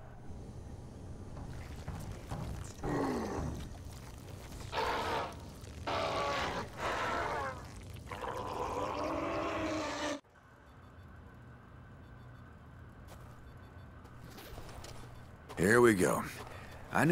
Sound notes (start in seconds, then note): 3.5 mutated man in pain then proceeds to roar while being under water